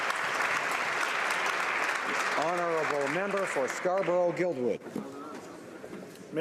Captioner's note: applause